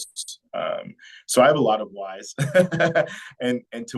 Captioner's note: laughing